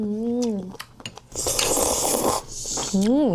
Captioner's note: slurp